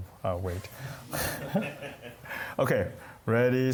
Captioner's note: laughter